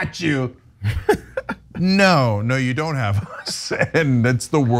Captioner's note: laugh